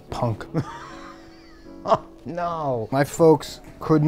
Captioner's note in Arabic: يضحك